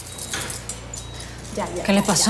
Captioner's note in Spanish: Sonidos de telemetría